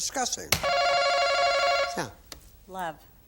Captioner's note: bell